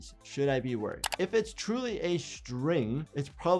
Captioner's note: keyboard keys clicking